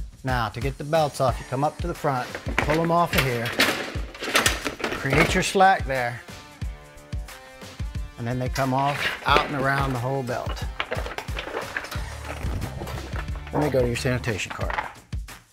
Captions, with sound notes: Now to get the belts off you come up to the front, pull them off of here, (conveyor clanks) create your slack there and then they come off out and around the whole belt. (belt rustles) And they go to your sanitation cart.